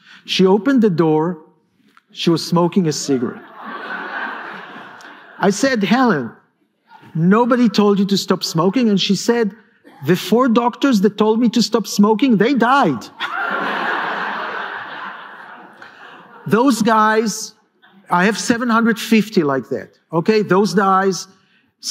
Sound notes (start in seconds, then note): 13.1 laughter